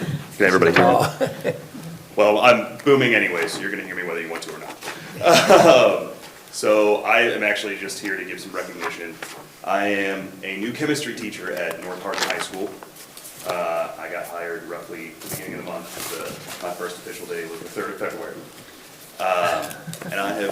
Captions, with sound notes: (paper rustling) (everybody laughing) - Can everybody hear me? - Oh. (laughs) - Well, I'm booming anyways, so you're gonna hear me whether you want to or not. (laughs) So, I am actually just here to give some recognition. I am a new Chemistry teacher at North Hardin High School. I got hired roughly the beginning of the month. My first official day was the 3rd of February,